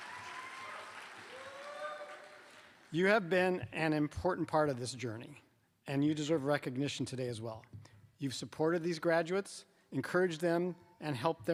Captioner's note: applause